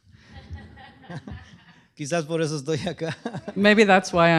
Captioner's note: speaking spanish